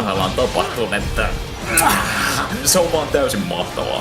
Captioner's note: mwah